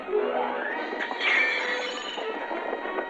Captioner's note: glass shatters